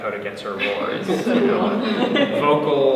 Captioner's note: all laugh